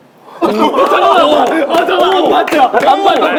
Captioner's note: laughing